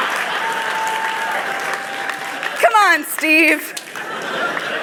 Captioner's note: laughter